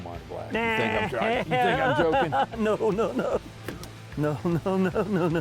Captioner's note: laughs